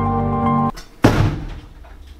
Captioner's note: thud!!!